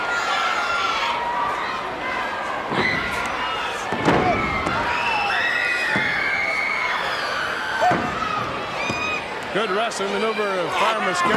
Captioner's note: crowd chatter